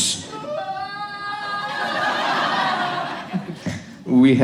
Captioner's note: mimics crying